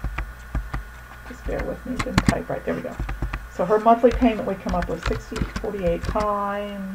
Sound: typing

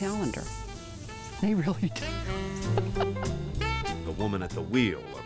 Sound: laughing

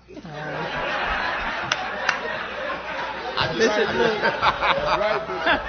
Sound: laughter

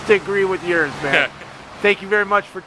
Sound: laughs

